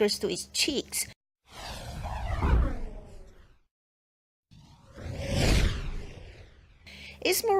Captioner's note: witch's broom flies and swoosh